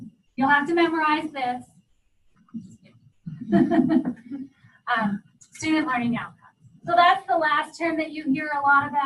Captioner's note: laughter